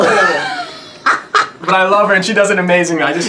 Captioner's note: laughs